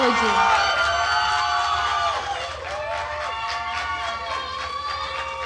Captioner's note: attendees cheering and applauding